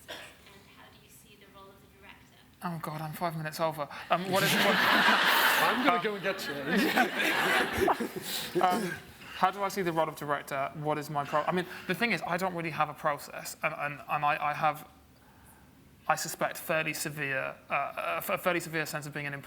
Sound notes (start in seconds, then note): 4.1 audience laughs; 8.5 laughs